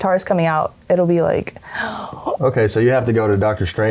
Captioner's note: gasps